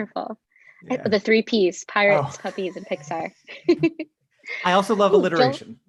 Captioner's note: laughs